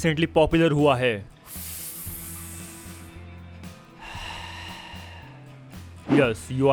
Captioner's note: heavy inhale